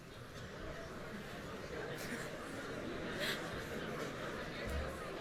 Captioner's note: audience chattering